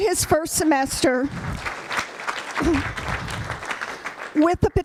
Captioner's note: applause